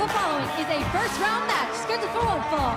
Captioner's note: bell ringing